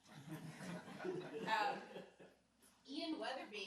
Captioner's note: laughing